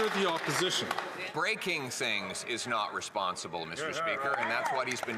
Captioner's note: some Applause